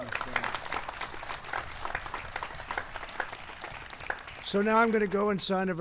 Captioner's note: applause